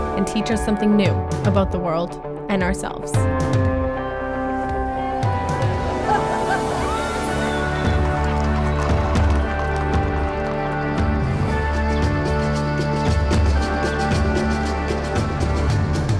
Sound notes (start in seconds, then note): 6.0 laughter; 8.1 fireworks crackle